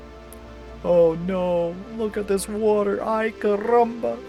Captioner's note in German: melodramatische Stimme